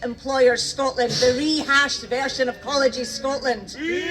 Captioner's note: jeering